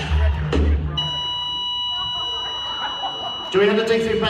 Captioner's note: flatline